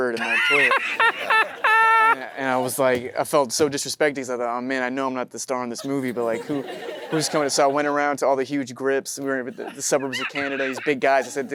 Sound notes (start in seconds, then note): 0.2 Matthew laughs; 0.2 audience chuckling